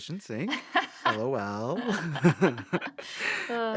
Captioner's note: laughter